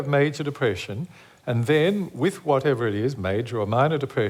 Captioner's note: none